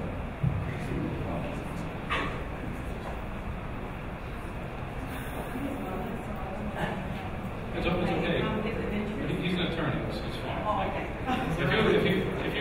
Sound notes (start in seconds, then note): 5.9 woman mumbling